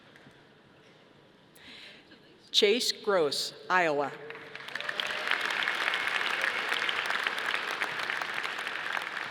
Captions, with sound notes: Chase Gross, Iowa. (audience applauding)